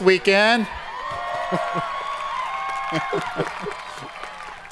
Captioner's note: audience cheering